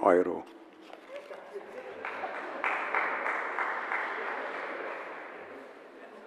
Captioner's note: general applause